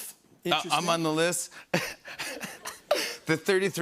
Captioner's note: laughs